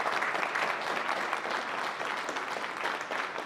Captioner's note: applause